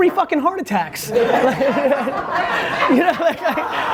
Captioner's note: group laughs